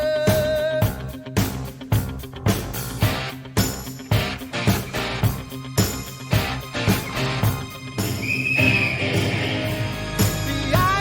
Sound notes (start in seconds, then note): 8.0 whistle blows